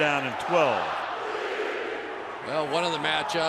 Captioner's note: crowd chanting